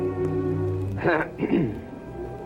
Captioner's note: clears throat